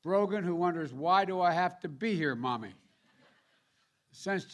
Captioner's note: laughter